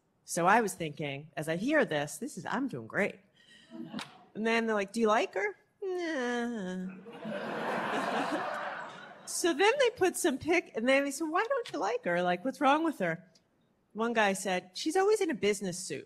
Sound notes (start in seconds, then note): 6.9 laughter